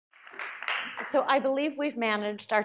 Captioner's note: applause